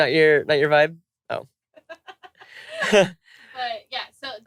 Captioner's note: laughter